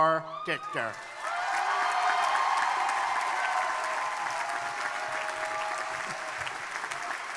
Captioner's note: crowd cheering; crowd applauding